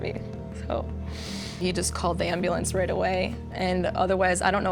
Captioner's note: inhales deeply